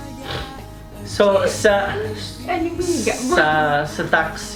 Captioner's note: babbling